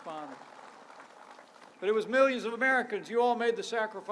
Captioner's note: applause